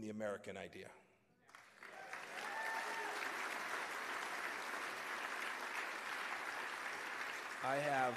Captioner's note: cheers and applause